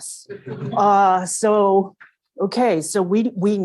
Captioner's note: laugh